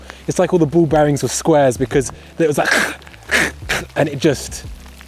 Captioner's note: cracking